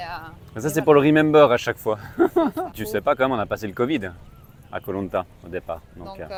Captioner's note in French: rires